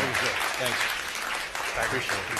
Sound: applause

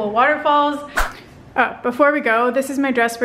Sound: whooshing

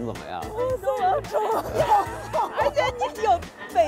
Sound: speaking in foreign language; laughter

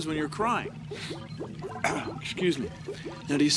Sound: sniffles, clears throat

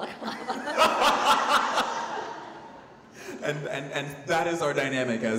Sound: laughing

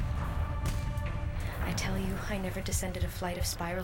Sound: explosions

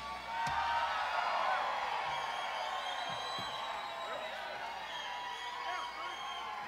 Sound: audience cheers; audience applauds

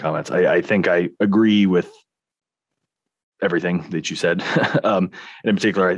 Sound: laughing

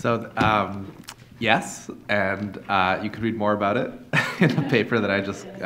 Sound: laughs

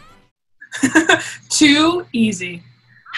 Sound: chuckles

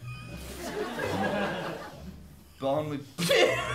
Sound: laughter

